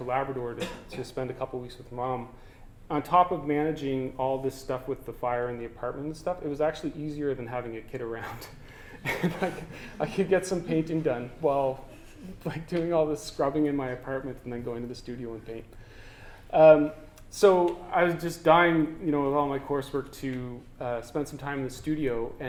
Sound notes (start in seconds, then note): 9.0 laughter